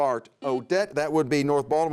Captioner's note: buzzer sounds